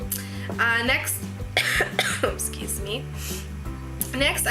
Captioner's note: cough